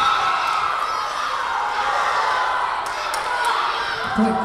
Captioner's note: crowd cheering